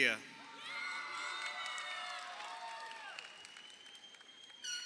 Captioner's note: crowd cheering